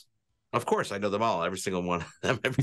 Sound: chuckles

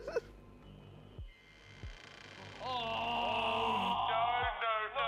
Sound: creaking

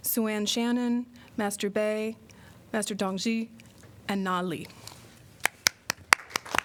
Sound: applause

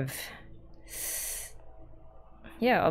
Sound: sharp inhale

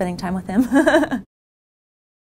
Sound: laugh

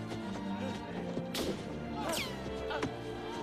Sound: gunfire

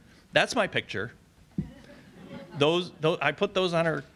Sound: audience laughs

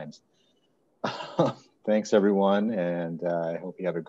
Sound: chuckles

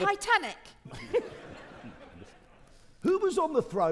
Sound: audience laughing

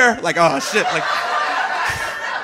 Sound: audience laughing

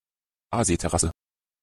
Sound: fast Pronunciation

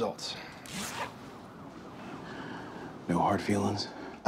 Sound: zipper closes

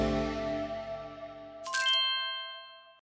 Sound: coin power up sfx

